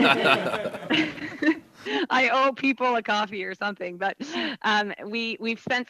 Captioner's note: laughter